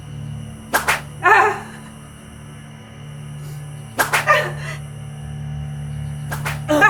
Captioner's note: whip lashing; woman moans